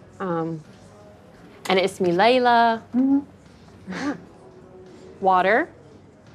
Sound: speaking in Arabic

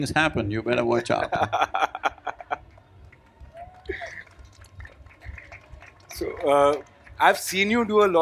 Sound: laughs; applause/Cheering

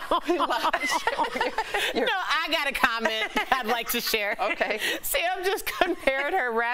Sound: laughter

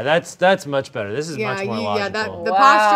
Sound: monitor beeps

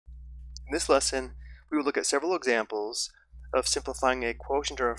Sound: voiceover

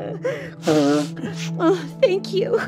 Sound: blowing nose

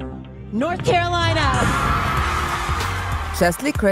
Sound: crowd cheering

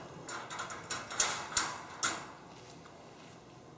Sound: cage door

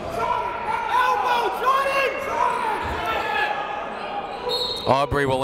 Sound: coaches barking commands; whistle

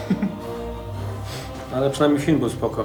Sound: Szymon laughs

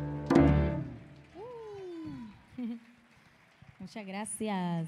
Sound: audience applauding

